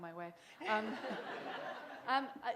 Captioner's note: laughter